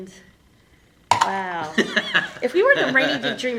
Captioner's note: laughing